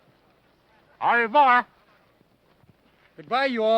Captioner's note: speaking foreign language